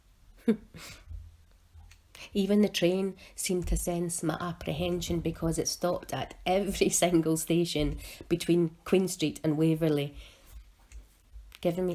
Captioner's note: laugh